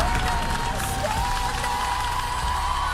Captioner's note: cheers and applause